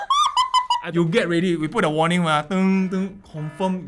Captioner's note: laughing; warning sound